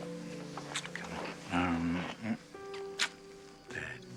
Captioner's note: moans